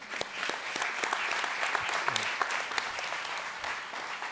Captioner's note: audience applauds